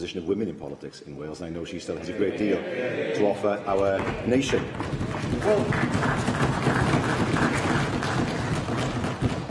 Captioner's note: applause